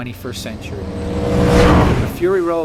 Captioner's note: roar